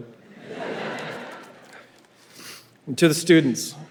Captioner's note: audience laughing